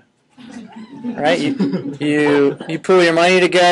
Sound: students laughing

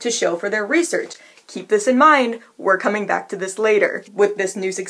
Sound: whispering

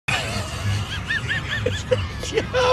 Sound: laughing

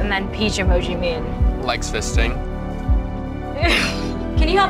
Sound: laughs

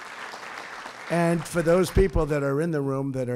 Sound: applause

